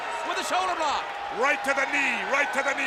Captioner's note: audience cheers